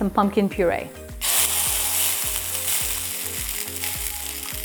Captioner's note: pan sizzling